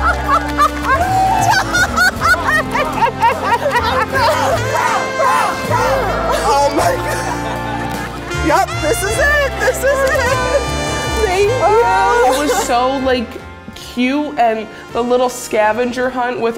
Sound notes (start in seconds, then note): 0.2 gentle music; 3.6 crowd